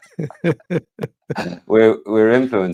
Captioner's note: both laughing